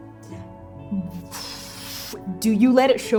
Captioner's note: stunned exhale